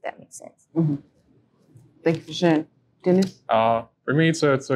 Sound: hums

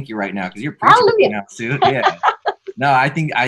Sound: laughing

